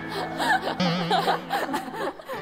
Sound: laughing out loud

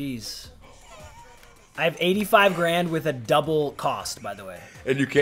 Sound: laugh

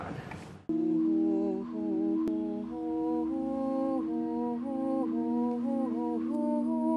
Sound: woman humming along to soft relaxing music

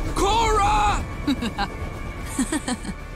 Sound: laughing

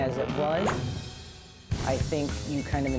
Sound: balloon bursts loudly

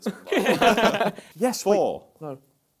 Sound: laughter

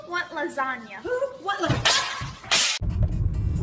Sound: clattering, crashing

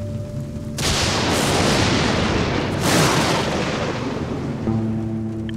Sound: thunder crashing; guitar strumming music

